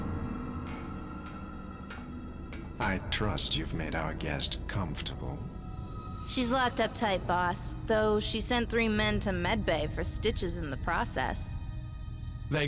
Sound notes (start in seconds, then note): 1.3 clank of approaching footsteps